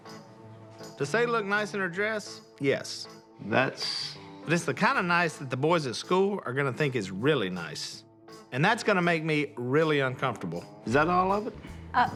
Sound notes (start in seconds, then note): none